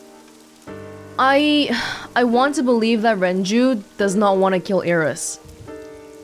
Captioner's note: exhales